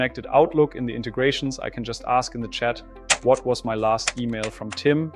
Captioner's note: keyboard clicking